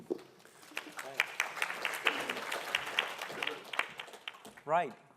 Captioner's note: applause